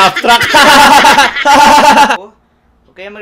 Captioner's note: laugh track; sarcastic laughter